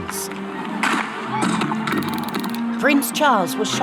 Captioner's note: gunshots